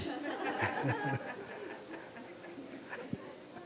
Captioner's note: laughter